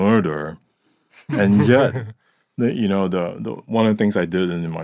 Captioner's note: chuckling